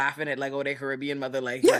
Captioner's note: laughing